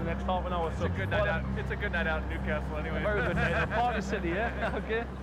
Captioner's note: laughs